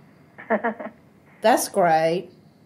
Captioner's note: laughs